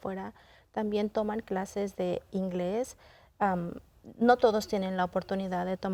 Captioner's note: continues speaking in Spanish